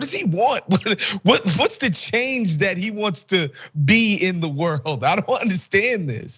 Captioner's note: laugh